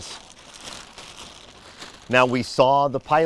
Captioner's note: plastic crinkling